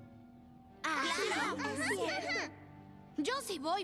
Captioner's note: agreeing chatter